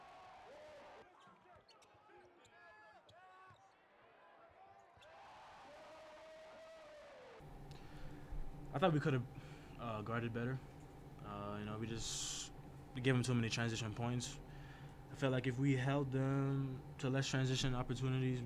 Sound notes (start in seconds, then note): 0.0 crowd cheering; 0.0 players shouting; 5.1 crowd cheering